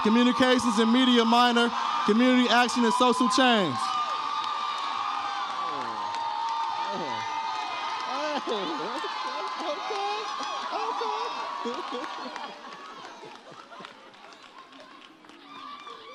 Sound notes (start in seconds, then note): 3.9 audience cheers